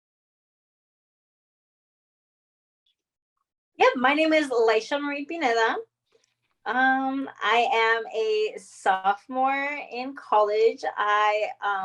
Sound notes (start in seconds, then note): 0.0 silence